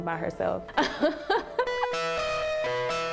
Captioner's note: laughs